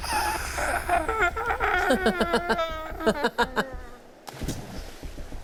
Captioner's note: Odie laughs